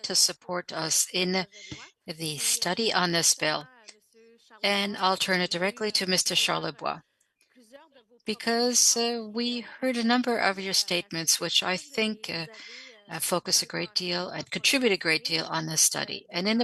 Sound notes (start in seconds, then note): 2.4 speaking French